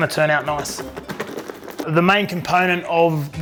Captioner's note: box shaking